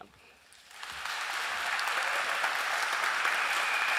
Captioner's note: applause